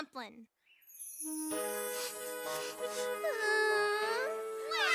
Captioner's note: sniffling, Sobbing; all Sobbing